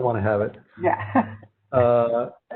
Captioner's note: laughs